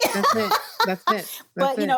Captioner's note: laughs